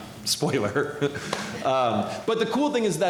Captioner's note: laughter